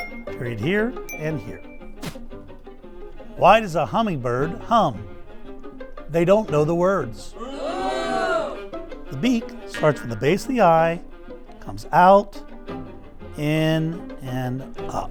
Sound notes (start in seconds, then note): 0.0 cheerful music; 8.2 crowd